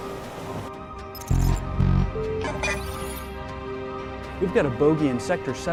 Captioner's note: system whirring and beeping